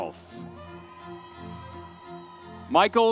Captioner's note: upbeat music continues; audience cheers